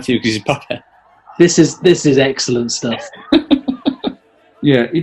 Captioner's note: chuckling